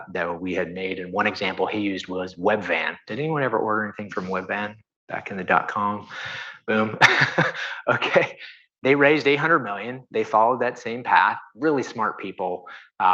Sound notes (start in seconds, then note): 6.1 chuckles